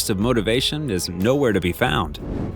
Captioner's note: air whooshing